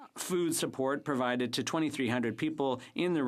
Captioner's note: speaking French